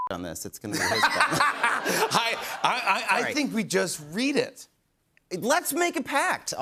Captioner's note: laughter